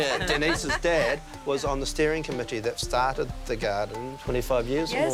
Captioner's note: laughs